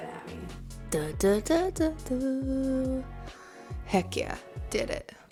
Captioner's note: humming tune